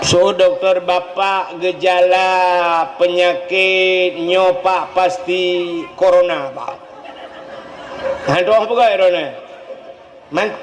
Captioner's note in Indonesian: tertawa